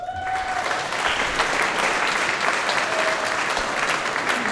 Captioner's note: audience applauding